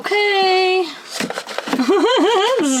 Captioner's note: laughs